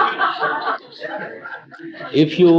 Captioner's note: loud laughter